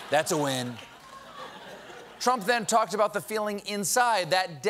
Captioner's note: laughter